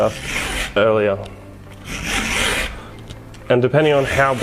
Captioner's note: saw file grinding